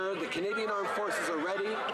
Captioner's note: crowd Noise